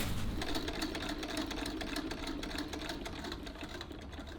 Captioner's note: sewing machine whirring